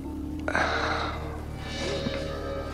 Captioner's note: sighs